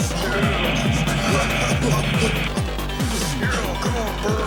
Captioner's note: fire whooshing